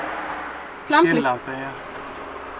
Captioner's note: in Swiss German